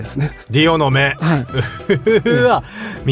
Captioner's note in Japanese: 笑い